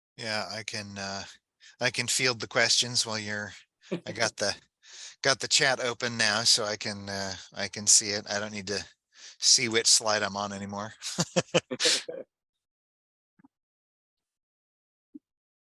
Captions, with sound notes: - Yeah, I can field the questions while you're, I got the chat open now so I can see it. I don't need to see which slide I'm on anymore. (laughs)